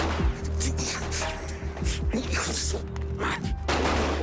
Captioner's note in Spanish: Disparo